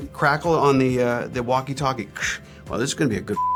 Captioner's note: imitates crackling